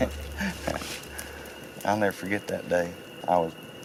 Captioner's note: laughing